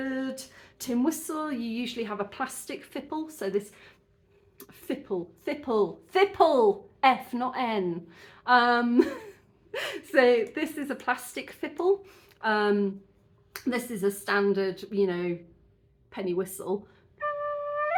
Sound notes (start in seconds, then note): 8.2 laughing